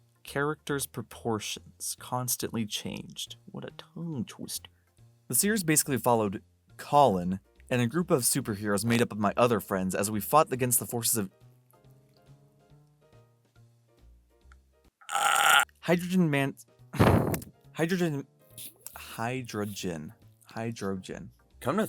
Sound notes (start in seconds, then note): 15.1 raspy groan; 17.0 exhale